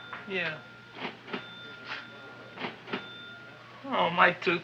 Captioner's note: cash register chiming rapidly